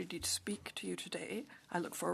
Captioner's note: speaking French